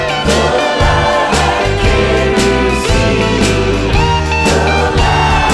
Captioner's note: laughing